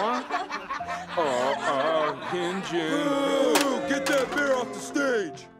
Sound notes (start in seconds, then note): 0.0 laughter; 2.3 crowd booing